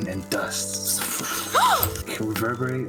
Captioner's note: shhshshshsh